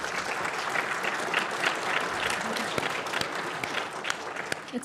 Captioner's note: audience applauds